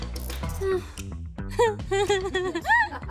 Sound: Vanessa giggling; Vanessa sighs; Vanessa laughs; people laughing

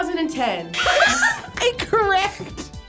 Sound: laughs

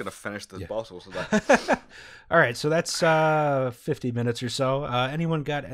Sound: laughter

